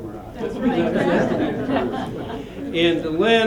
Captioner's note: laughter